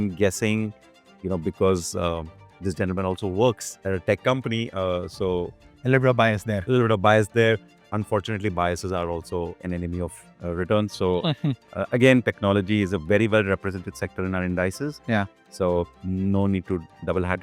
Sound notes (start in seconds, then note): 11.2 chuckles